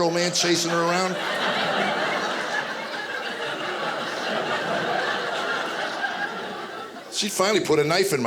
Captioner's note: audience laughing